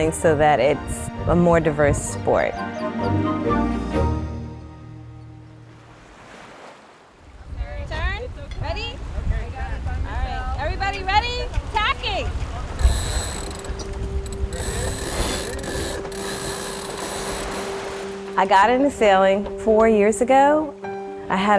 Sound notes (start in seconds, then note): 2.1 whimsical music; 5.5 waves crashing